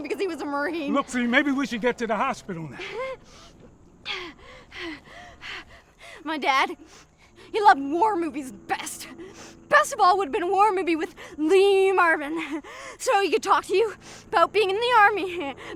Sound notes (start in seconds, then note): 4.0 Nyah gasping; 12.1 laughs